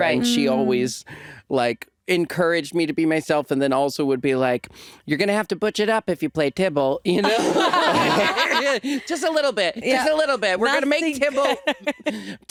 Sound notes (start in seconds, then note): 7.2 all laughing